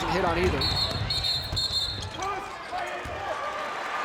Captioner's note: whistle blows